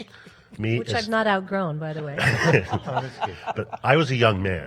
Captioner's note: panel laughs